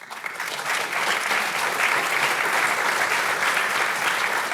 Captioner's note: audience applauding